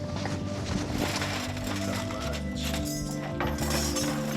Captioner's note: jewelry clanks